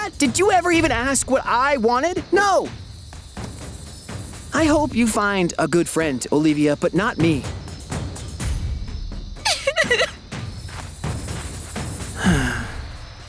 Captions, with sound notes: Did you ever even ask what I wanted? No! I hope you find a good friend, Oliwia, but not me. [sobs] [sighs]